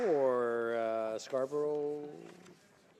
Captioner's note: applause